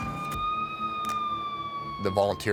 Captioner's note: siren blaring